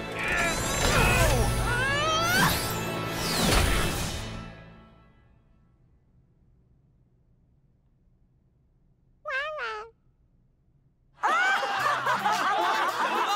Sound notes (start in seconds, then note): 0.7 both grunting; 9.2 babbling; 11.2 crowd laughing